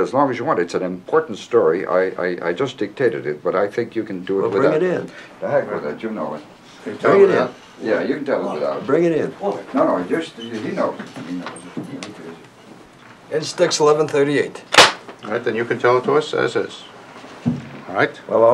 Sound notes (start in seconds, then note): 14.7 clap